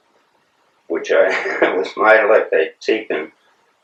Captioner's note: laughs